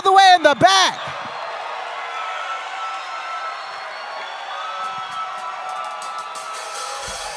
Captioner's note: crowd Cheers